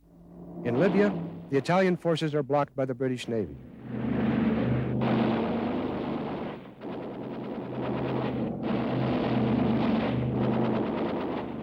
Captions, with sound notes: In Libya, the Italian forces are blocked by the British Navy. (plane engine roars) (gunfire)